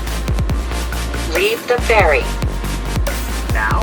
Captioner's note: over PA